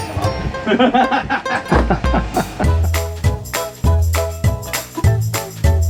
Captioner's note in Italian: risate